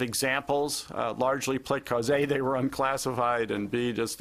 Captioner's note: speaking quickly